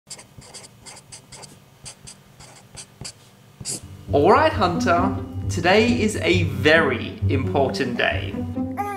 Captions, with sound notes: (pen scratches) (pen scratches) - All right, Hunter. Today is a very important day.